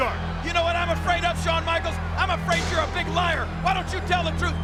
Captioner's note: none